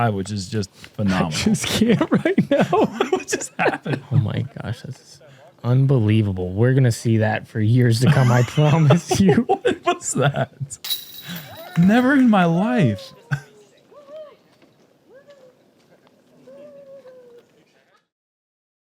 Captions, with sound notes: which is just phenomenal. -I'm scared right now. -What just happened? [laughs] -Oh, my gosh. This is unbelievable. We're going to see that for years to come, I promise you. -[laughs] What's that? Never in my life.